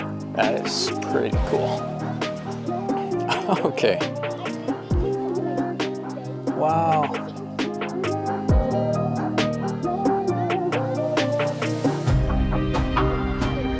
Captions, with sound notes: That is pretty cool. [laughing] Okay! Wow... [upbeat music]